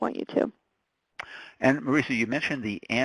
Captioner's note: voiceover